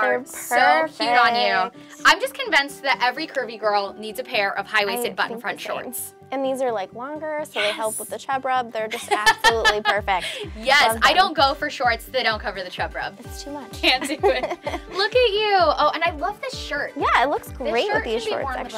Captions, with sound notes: - Perfect! - So cute on you! I'm just convinced that every curvy girl needs a pair of high waisted button front shorts! - And these are like longer. - Yes! - So that helps with the chub rub. (laughs) They're just absolutely perfect. - Yes, I don't go for shorts that don't cover the chub rub. - It's too much. - Can't do it. - Look at you. Oh, and I love this shirt. Yeah, it looks great with these shorts actually.